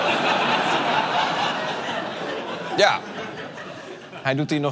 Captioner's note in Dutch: gelach